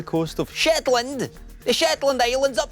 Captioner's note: strong shetland accent